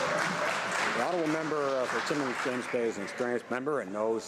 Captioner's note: some Applause